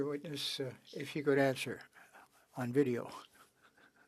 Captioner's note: speaking French